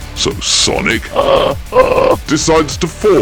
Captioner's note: derisive laugh